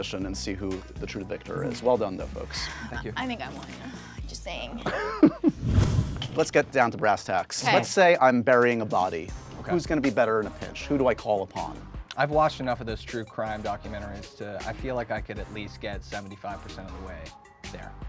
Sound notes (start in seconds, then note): 4.9 host laughs